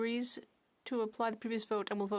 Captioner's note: speaking French